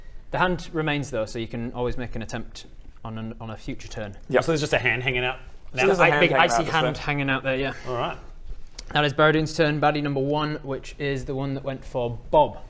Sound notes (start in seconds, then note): none